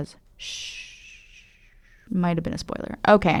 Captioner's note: shushing